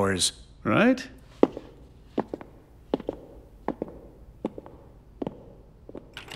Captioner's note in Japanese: 足音